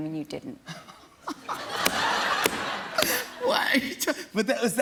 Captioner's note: laughing